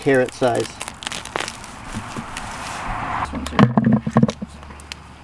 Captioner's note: carrot being pulled from the ground; carrots being put into bucket